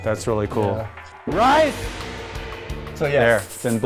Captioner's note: gong echoes